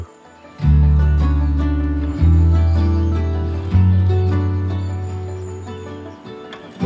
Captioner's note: birds twitter; bright music